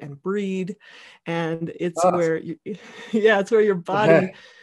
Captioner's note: laughing